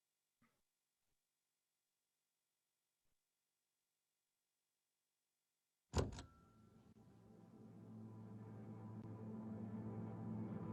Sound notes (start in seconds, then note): 6.0 door latch clicks; 6.8 ominous music